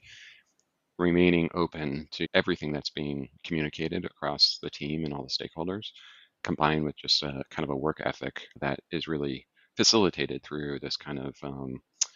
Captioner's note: lip smack